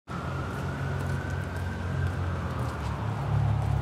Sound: sirens, traffic passing

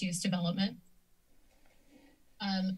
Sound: silence

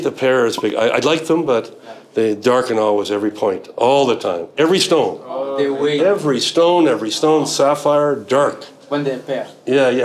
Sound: all murmur

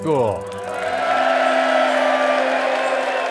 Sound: cheering

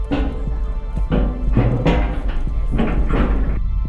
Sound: clap of sheet metal

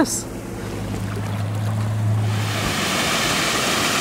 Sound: water gurgles

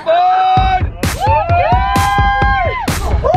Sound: cheering

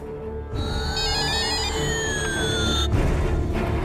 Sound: shrilling, beeping

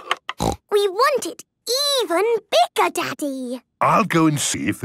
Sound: snorting

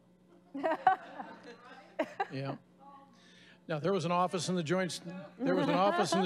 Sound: laughing

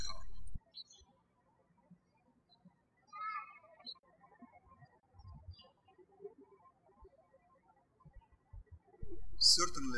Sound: birds chirping

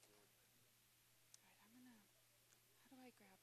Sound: whispering

